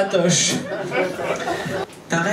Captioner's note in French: rires public